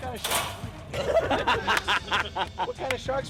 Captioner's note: laughter